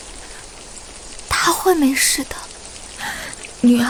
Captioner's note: sobbing